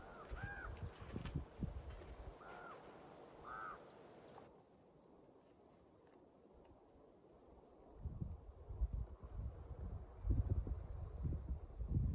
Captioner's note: ravens croaking